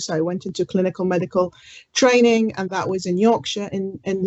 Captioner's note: none